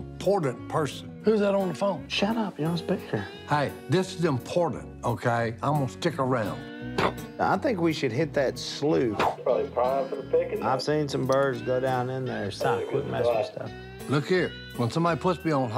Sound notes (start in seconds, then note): 8.2 on phone; 13.0 on phone